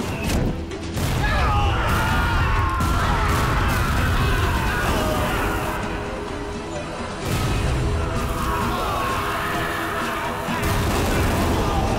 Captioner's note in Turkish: Patlama sesleri; Bağırma sesleri